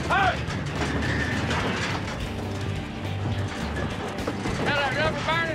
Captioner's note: bulls fighting, trailer shaking